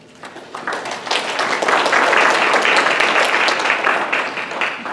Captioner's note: clapping